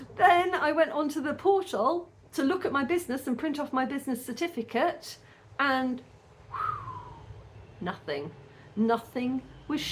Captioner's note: whistles